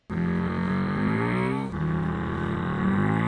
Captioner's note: car engines